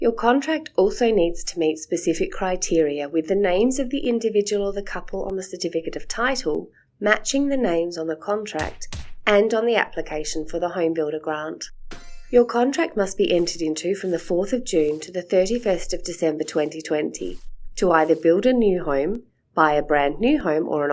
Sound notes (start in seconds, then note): 8.6 stamp sound; 12.0 chime sound; 13.2 sound of calendar pages being turned 7 times